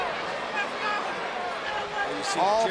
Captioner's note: crowd shouting